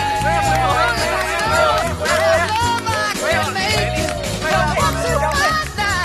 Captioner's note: cheering